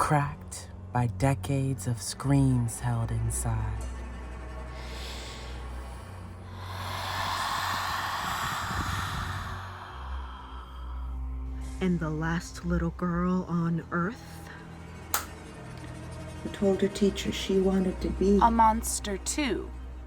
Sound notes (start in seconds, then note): 4.6 deep inhale and exhale